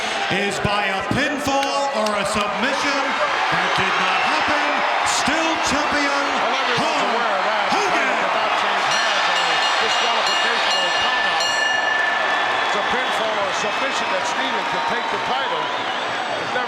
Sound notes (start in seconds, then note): 7.8 bell ringing